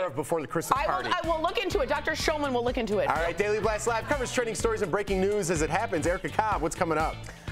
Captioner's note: laughter